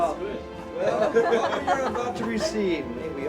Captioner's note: group laughs